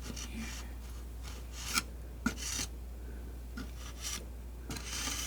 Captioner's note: metal scraping